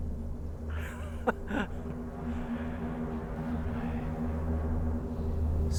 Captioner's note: Mr. Boll laughing